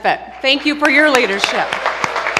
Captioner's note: applause